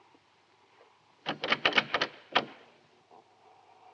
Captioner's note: jiggling doorknob